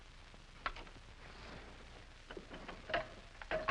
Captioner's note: lock clicks